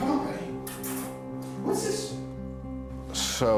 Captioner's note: smooches